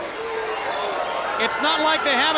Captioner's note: crowd cheering